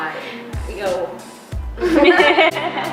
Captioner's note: laughs